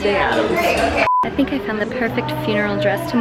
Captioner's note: beep